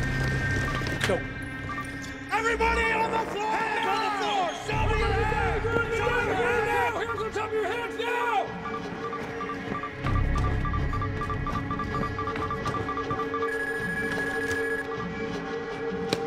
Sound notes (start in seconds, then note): 8.5 beeping intensifies; 13.5 rapid beeping